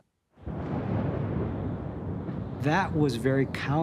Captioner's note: thunder rumbling